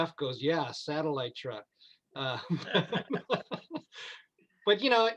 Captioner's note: laughing